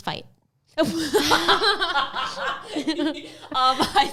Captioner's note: laughs